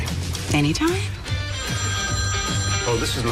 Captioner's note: phone ringing